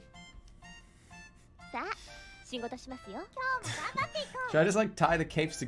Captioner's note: silently giggles